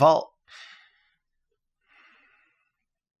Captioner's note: exasperated sigh